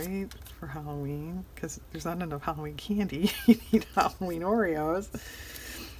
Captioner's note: laughs